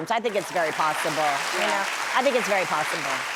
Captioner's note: audience applauds